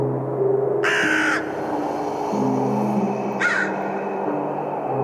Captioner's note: crows cawing